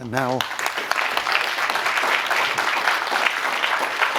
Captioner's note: applause